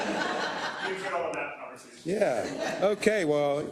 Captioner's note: laugh; laugh